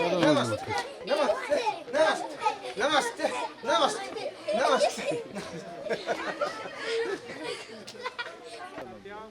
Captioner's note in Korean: 웃음